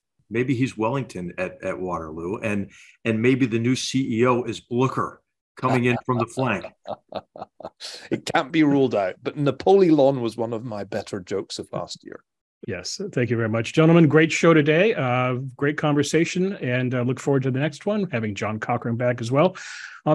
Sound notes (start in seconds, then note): 5.6 laugh